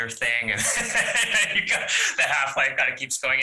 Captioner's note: laughing